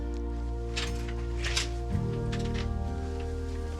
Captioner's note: door clicks